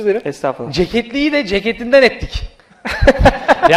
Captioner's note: laughter; laughs